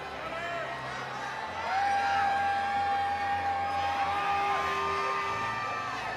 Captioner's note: overlapping chatter; audience cheering